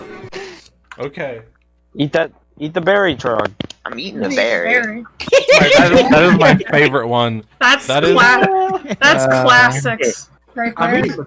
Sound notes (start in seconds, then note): 1.5 old recording playing; 5.2 giggling; 10.6 sighing